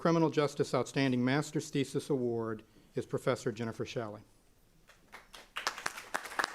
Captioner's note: applause